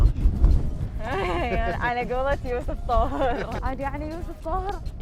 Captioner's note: laughs